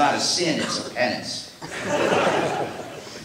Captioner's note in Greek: Γέλια από το ακροατήριο